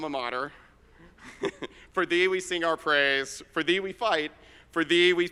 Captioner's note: chuckles